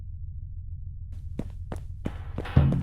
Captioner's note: footsteps